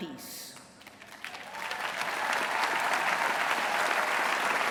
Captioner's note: applause